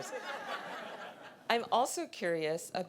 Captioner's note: audience laughs